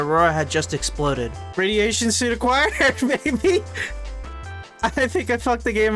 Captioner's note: laughing